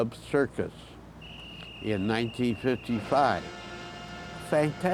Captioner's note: whistle blows